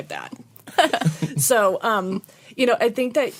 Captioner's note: laughter